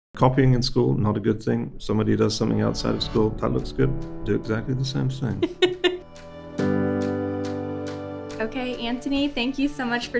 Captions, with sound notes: - Copying in school, not a good thing. Somebody does something outside of school that looks good, do exactly the same thing. (host laughing) (gentle music) - OK, Anthony, thank you so much